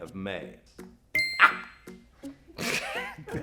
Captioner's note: ding